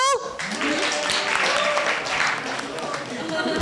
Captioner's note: applause